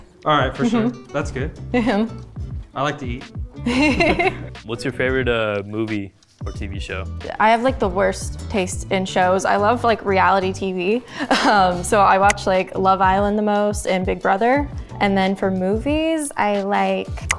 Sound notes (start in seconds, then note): 3.6 both laughing; 11.2 chuckles